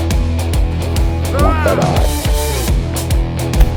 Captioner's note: man grunting; man yelling; energetic music